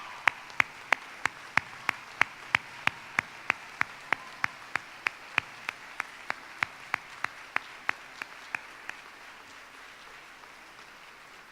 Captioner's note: applause